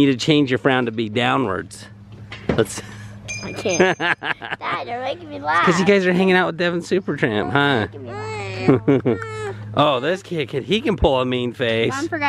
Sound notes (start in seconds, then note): 3.6 laughs; 7.7 fusses